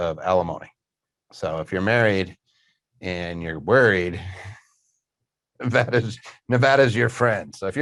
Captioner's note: snickers